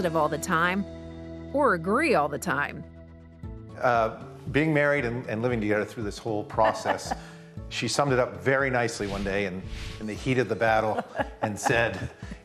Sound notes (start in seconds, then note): 6.6 laughing